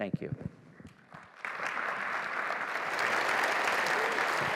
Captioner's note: applause